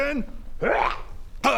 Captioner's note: hrrghah